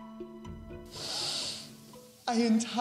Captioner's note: sniffling